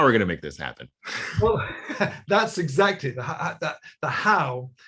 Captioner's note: chuckles